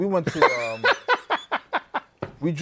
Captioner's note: laughs